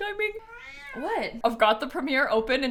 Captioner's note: snap meows